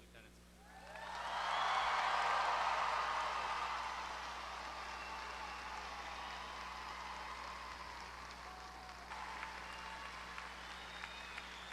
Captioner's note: applause